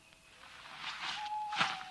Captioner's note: vinyl sleeping bag rustling; owl hoots in the distance